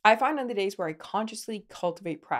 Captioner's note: none